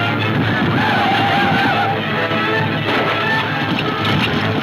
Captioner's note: gunfire pops